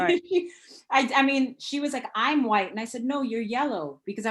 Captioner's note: laughing